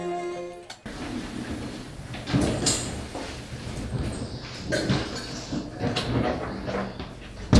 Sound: rumbling Noises

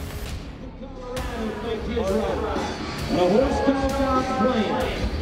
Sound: announcer bellowing

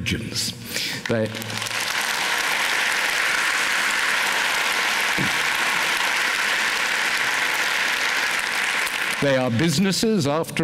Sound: applause

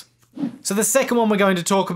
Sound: whooshing

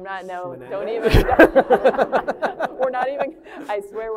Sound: laughter

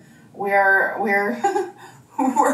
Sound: chuckles

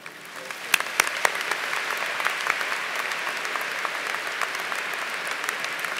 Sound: applause

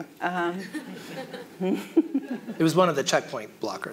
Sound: audience laughs

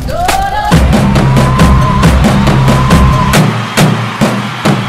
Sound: cheers

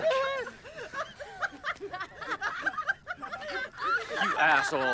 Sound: all laugh

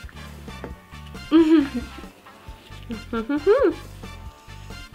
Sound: laughs

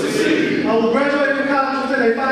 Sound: audience speaking

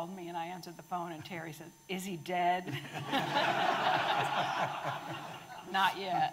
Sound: audience laughing

